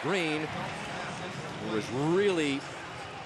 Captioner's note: pa announcement